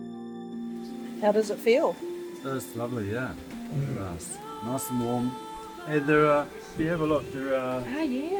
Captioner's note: water running